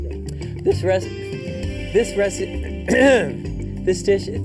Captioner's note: clears throat